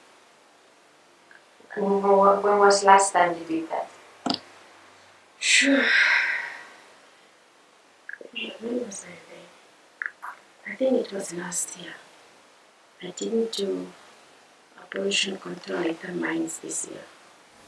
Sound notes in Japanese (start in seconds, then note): 5.6 ため息